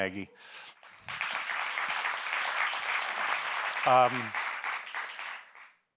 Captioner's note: audience members applauding